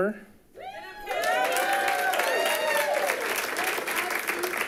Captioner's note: audience applauding